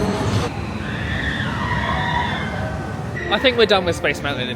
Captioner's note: distant guests' screams